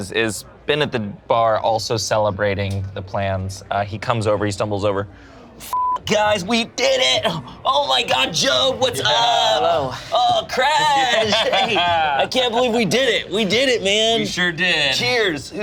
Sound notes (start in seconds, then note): 5.7 beep